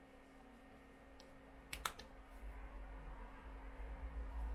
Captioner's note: hand smacks